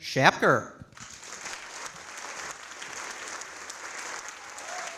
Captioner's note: audience applauding